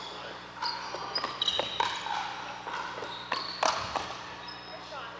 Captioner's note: ball bouncing